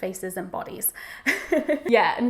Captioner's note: laughs